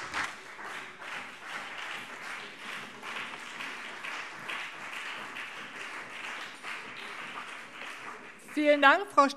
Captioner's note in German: Beifall CDU und BÜNDNIS 90/DIE GRÜNEN